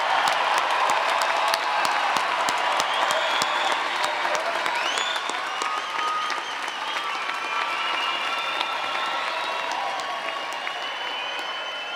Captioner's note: cheers and Applause